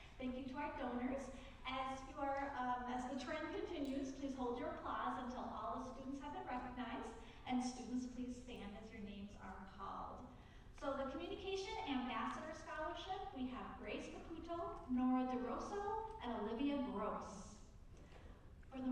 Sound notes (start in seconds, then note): none